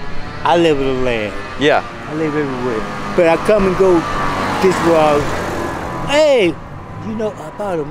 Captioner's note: loud car rolls